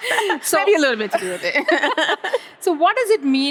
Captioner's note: both laugh